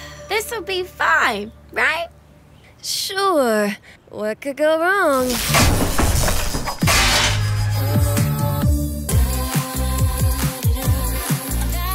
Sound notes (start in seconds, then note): 0.0 Lady Bee sighs; 5.2 light crashes; 9.3 pop music